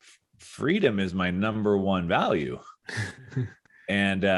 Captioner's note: chuckles